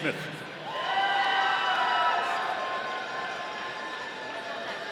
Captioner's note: audience cheering